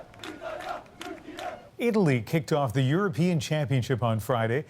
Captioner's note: chanting